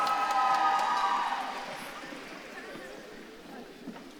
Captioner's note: audience claps and cheers